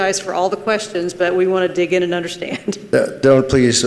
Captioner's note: chuckles